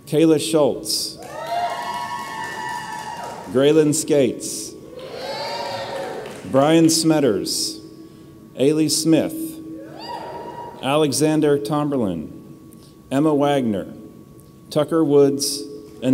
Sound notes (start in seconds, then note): 1.2 audience cheers; 4.9 audience cheers; 9.9 audience cheers